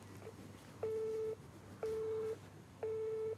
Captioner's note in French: Tonalité